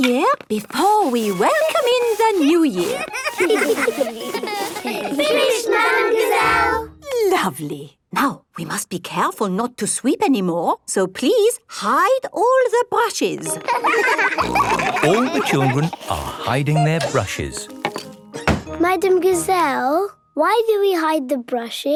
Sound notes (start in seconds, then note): 2.8 laughter; 13.5 laughter; 14.1 snorting